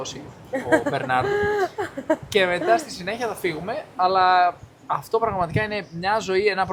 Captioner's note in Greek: γέλια